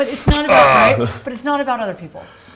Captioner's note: host grunts